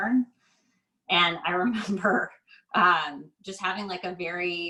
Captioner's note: laughs